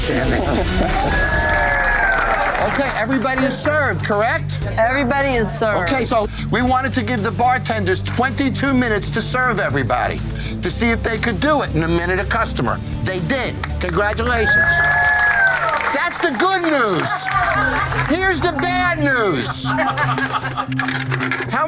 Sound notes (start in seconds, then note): 0.1 cheering, applause; 13.6 applause; 16.9 laughter; 19.3 laughter